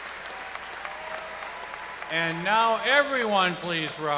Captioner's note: applause